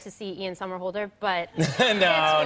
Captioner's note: laughter